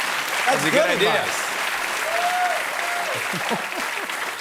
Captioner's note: cheers and applause; laughs